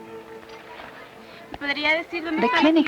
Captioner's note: speaking Spanish